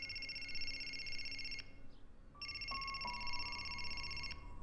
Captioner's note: cell phone ringing